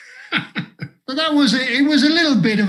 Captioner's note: laughs